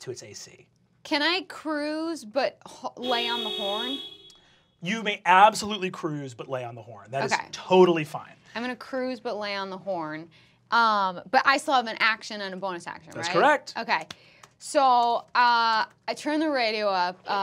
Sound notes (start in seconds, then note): 3.0 horn honking